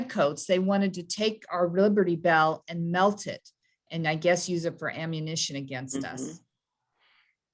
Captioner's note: hums in agreement